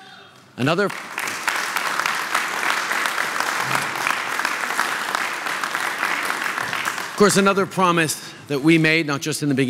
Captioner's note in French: Applaudissements